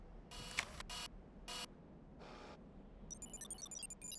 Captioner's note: telescope zooming